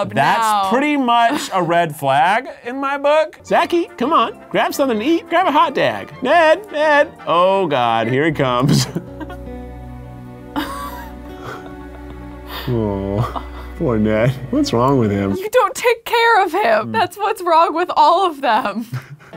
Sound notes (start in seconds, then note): 7.7 chuckling; 8.9 emotional music